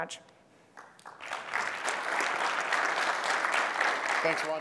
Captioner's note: applause